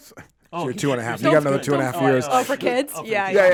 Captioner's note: laughs